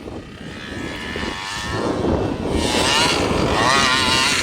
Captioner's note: motor revving